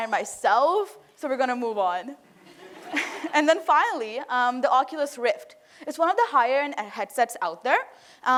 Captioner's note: laughter